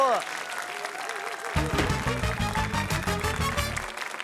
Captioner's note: applause